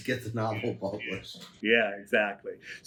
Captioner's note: laughs